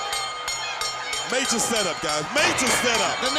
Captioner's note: bell ringing